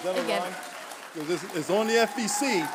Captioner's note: applause